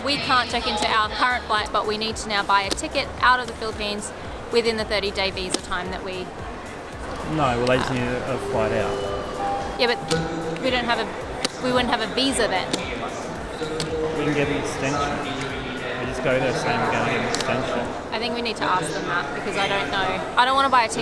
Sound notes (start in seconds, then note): 7.3 confused